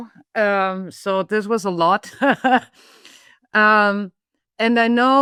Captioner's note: laughs